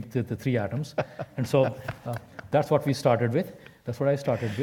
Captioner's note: laugh